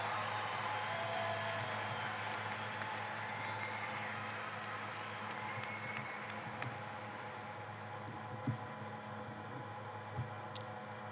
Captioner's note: cheers and applause